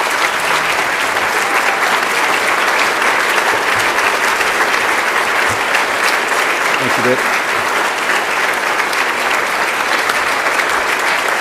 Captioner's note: applause